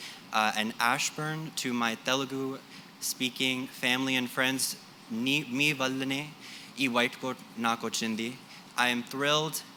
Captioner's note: speaking telugu